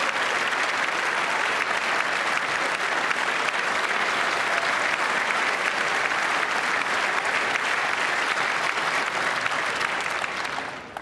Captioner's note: applause